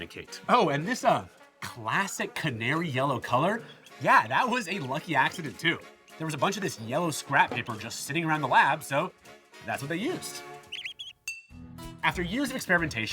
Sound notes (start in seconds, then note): 10.3 bell rings; 10.6 bird singing